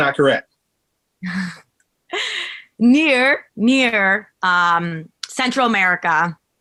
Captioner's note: chuckles